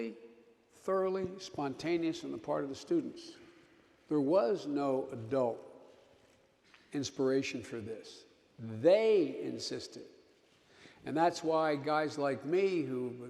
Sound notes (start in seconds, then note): none